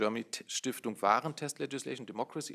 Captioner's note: speaking in German